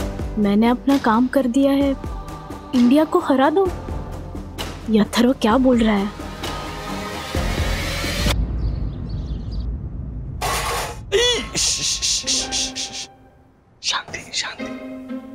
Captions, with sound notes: 'I did my job. Let India lose this time.' 'What is Atharva saying?' [birds chirping] [shushing] Silence.